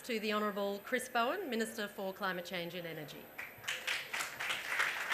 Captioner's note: applause